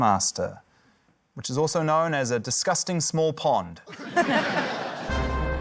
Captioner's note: laughter; dramatic music